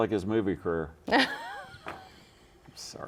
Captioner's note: laughs